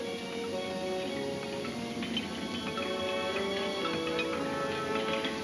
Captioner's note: metal clanking